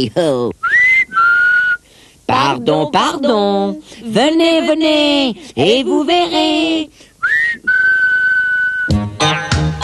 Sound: ils sifflent

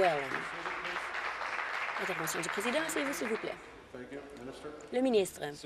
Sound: applause

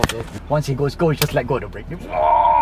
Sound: car noises

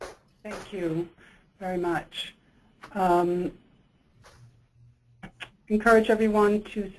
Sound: voiceover

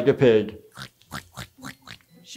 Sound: Honey Boo Boo snorting

